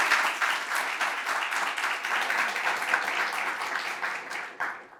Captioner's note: audience applauds